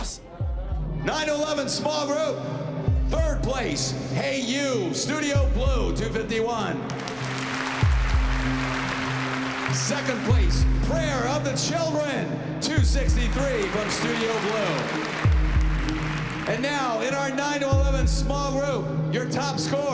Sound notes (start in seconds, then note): 6.8 applause